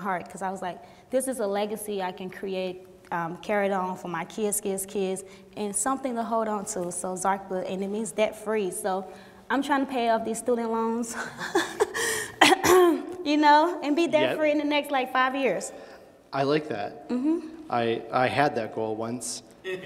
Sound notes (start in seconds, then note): 11.2 laughs; 12.4 clears throat; 19.7 laughing